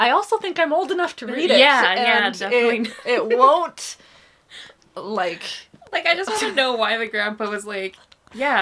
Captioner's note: laughs